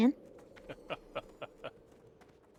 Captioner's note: laughter